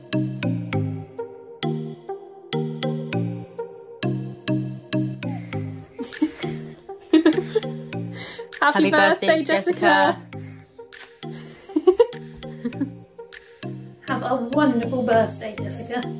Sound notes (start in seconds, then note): 7.1 laughs; 10.9 kisses; 11.4 laughs